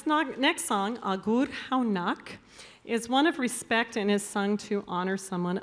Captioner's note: speaking Basque